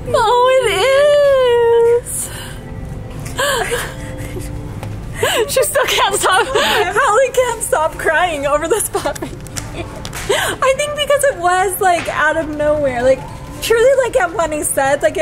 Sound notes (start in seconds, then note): 3.4 laughing